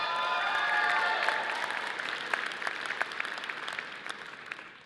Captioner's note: audience applauding